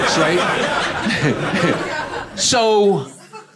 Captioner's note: audience laughing